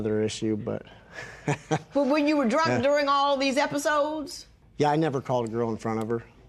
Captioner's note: chuckles